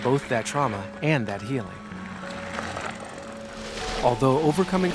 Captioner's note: bike spokes clicking